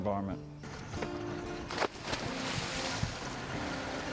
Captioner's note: splashing sound